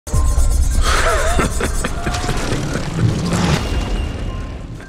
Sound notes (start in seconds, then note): 0.8 sinister laughing; 1.6 blades chaffing